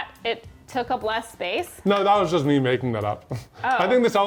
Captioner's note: laughs